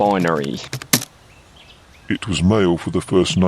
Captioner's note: typing